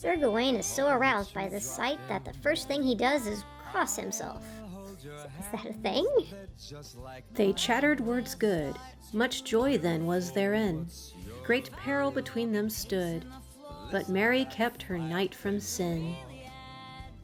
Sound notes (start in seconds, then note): 5.2 laughs